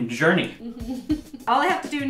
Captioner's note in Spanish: se ríe